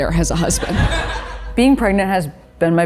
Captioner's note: audience laughing